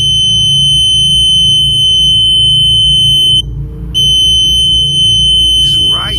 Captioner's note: energy detector device beeping and whistling